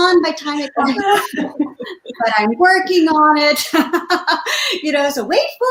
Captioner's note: laughs